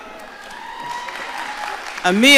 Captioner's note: audience cheering